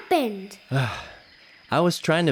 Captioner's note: sighs